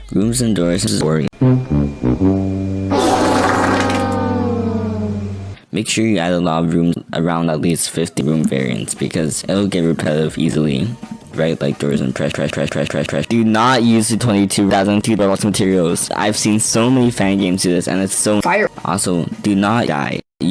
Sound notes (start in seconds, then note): 2.9 sounds of dissapointment